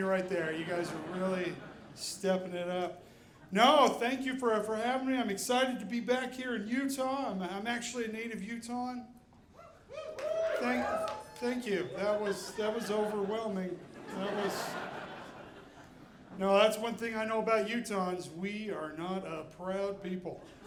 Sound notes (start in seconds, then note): 9.8 audience cheering; 14.2 audiene laughing